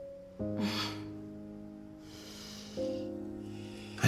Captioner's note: Jackie scoffs